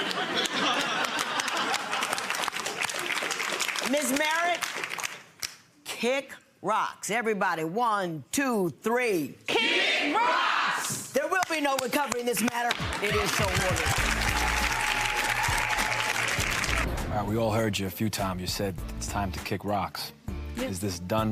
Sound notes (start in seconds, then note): 0.0 audience laughing and clapping; 14.2 clapping and cheering